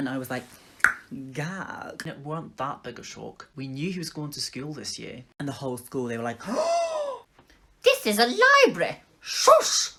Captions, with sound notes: And I was like *tongue pop* gag It weren't that big a shock. We knew he was going to school this year. And the whole school they were like *Big Gasp* This is a library shush!